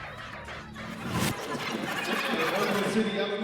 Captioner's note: record rewinds